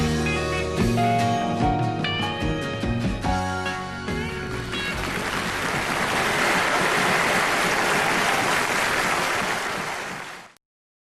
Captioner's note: cheers and applause